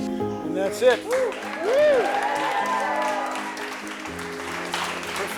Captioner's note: crowd cheering